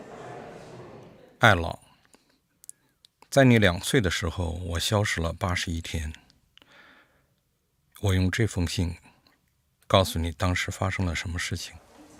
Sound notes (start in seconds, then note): 3.2 reads in mandarin